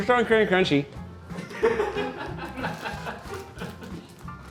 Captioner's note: crew laughing